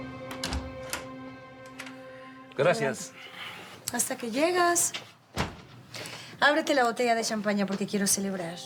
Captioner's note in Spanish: ruido al abrir